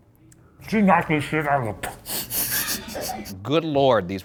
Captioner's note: laughing